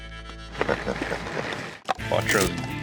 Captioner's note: both chuckle